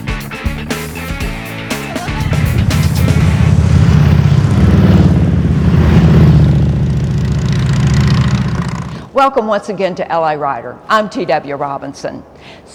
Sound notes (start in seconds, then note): 1.8 motorcycle engine running